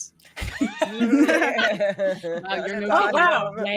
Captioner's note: group laughs